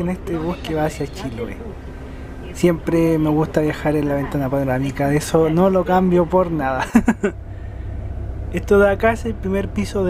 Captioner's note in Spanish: risas